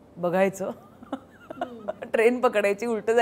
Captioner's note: Chuckles